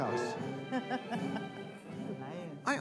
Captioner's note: Madam President chuckles